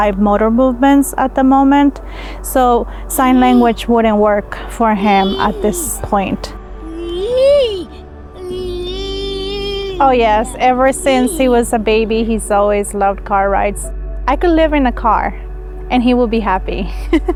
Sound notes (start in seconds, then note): 8.4 vocalizing